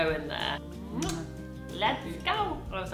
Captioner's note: kissing